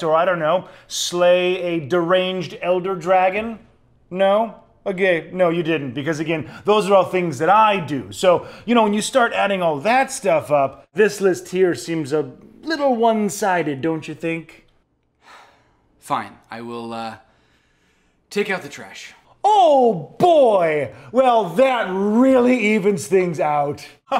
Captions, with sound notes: or I don't know, slay a deranged elder dragon? No? Okay, no you didn't because again, those are all things that I do. So, you know, when you start adding all that stuff up this list here seems a little one-sided, don't you think? (sighing) Fine, I will take out the trash. Oh boy, well that really evens things out.